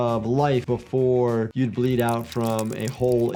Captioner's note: slime squishing